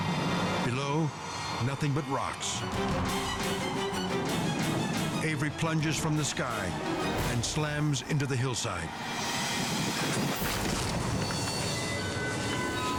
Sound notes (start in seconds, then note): 2.3 suspenseful music; 9.8 loud thud